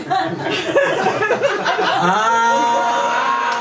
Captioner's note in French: rires public